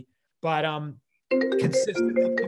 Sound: phone ringing

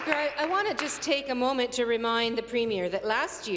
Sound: applause

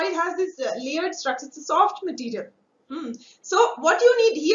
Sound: vocalized- noise

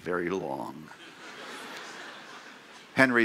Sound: laughter

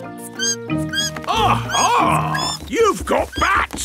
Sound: bat squeaking

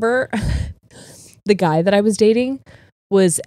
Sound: laughs

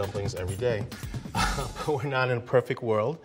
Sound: laughs

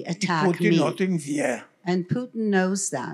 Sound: foreign language

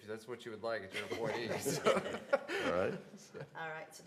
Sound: laughter

